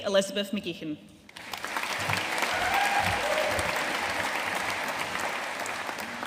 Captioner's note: audience cheering and applauding